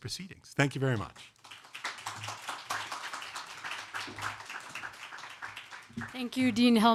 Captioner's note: audience clapping